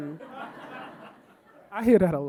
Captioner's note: audience laughing